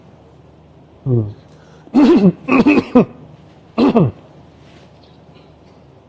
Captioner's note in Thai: เสียงไอ